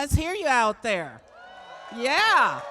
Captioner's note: cheering